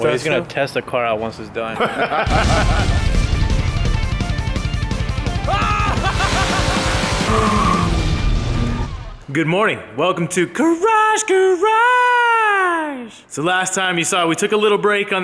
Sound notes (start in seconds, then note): 1.7 men laugh; 2.3 techno music; 5.4 loud laughing; 7.1 car shrieks